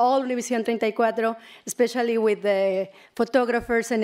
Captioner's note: speaking spanish